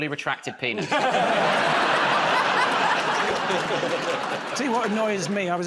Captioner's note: laughter